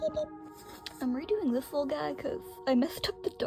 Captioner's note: laughing